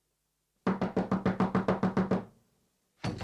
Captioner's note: SFX: knocking on the door; SFX: door creaks open, followed by running footsteps